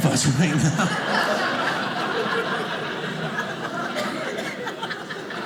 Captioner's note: audience laughing